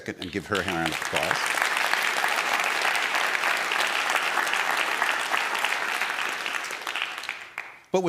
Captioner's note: applause from the crowd